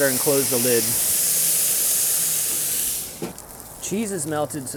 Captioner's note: water sizzling